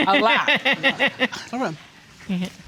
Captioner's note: laughing